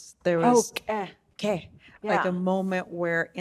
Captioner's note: speaking in Navajo language